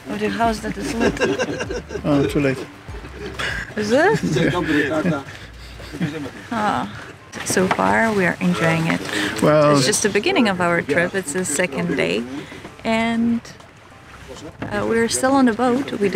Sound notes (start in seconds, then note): 2.9 chuckles